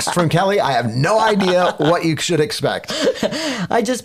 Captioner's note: laughing